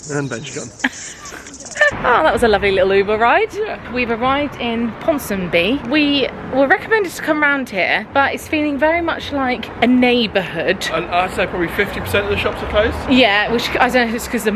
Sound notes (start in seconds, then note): 0.1 laughing